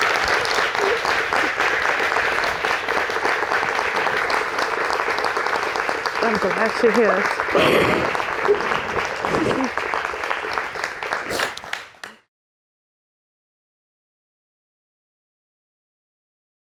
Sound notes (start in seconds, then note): 0.2 applauding; 7.5 crying